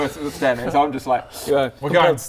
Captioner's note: slurp